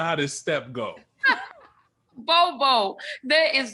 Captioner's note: laughs loudly